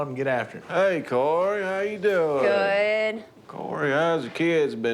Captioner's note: none